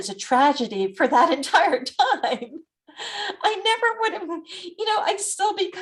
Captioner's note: laughs